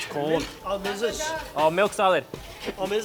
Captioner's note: man speaks foreign language